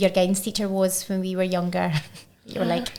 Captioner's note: chuckling